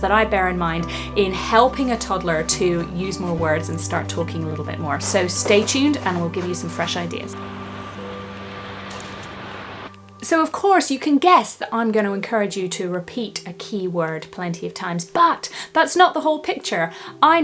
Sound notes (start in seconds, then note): 7.5 bright music; 7.5 waves crashing